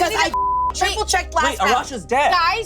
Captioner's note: beep